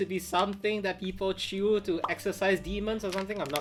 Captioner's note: graphic pops